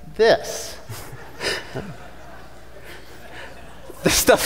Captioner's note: audience laughing